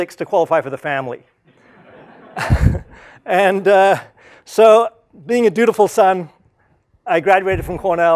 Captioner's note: laugh